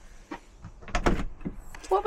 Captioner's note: door opens